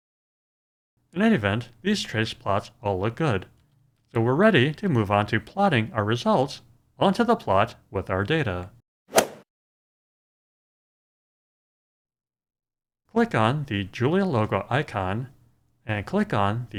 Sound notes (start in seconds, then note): 9.1 swoosh